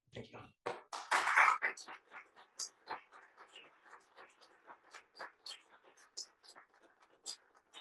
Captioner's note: applause